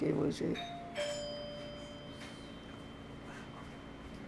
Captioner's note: doorbell